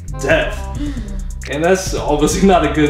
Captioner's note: gasp